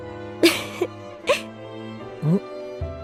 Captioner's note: chuckle